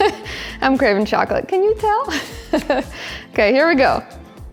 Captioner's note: chuckles